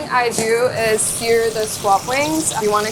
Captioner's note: oil sizzling